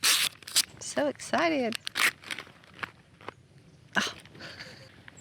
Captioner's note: tears wrapping paper